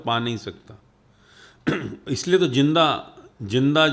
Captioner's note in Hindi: गला साफ़ करने की आवाज़